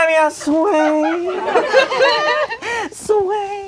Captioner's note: crowd laughing